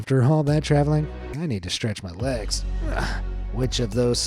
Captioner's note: groans